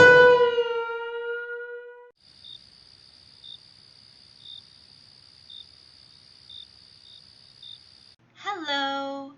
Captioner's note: awkward silence